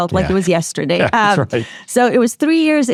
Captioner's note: chuckles